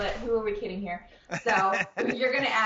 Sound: Ian Smith laughing

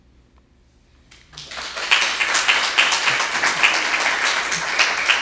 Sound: audience applauding

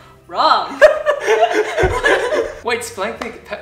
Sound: laughs

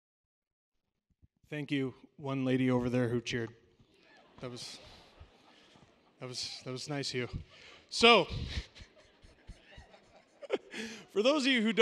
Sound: nervous laughter

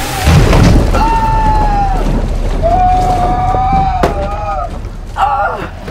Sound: screaming

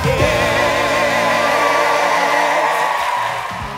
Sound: cheering and applause

